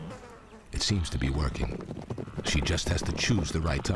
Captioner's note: hooves thudding